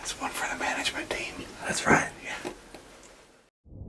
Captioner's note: whispering